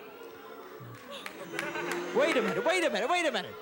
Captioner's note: laughter